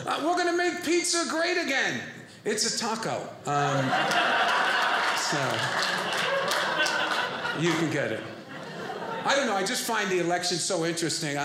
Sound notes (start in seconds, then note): 3.6 audience laughing